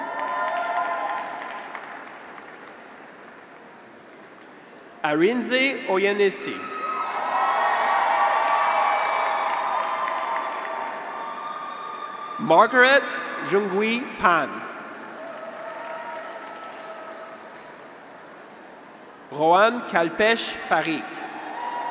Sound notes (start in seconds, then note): 0.0 graduates cheer; 0.0 audience applauds; 6.4 graduates cheer; 8.1 audience applauds; 15.0 graduates cheer; 15.2 audience applauds